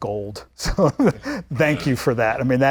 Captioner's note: host laughing